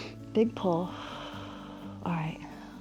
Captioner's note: inhales; exhales